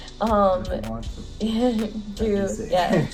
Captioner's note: giggles